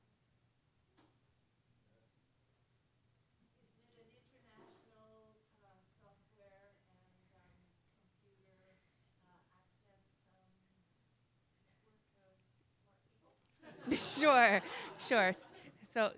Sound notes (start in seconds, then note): 4.1 voiceover; 13.6 crowd laughs